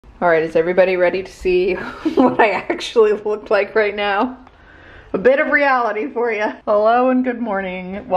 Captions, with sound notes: - All right, is everybody ready to see (laughing) what I actually look like right now? A bit of reality for you. Hello and good morning.